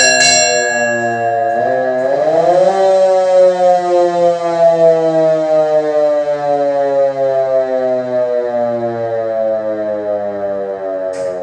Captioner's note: antique Fire Engine Siren